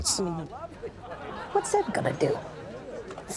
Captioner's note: audience laughs